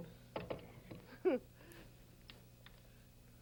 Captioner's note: chuckles